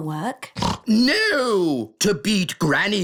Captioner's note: snorts